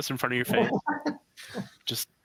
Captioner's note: laughs